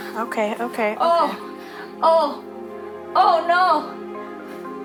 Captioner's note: moaning